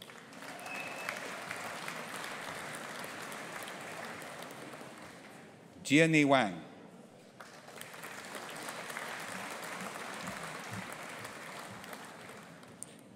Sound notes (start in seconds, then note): 0.0 audience applauding; 7.4 audience applauding